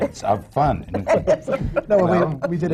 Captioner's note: laughs